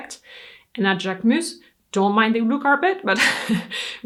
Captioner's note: laughs